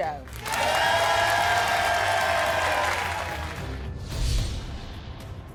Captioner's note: audience cheering and clapping